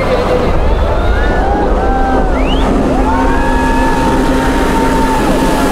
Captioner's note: crowd cheering